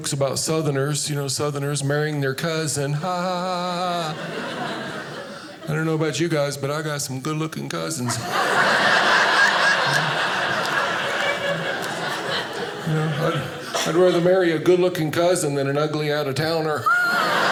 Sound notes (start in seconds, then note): 3.8 laughing; 8.0 audience laughing